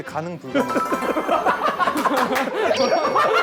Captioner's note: Tertawa terbahak-bahak